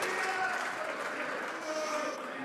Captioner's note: some Applause